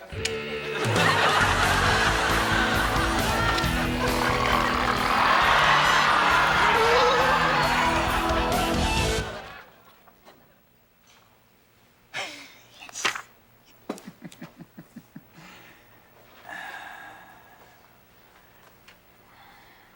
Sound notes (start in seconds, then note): 0.3 upbeat rock music; 4.0 George snarling; 6.8 shrieking; 13.8 Noseworthy chuckling; 16.4 Noseworthy sighing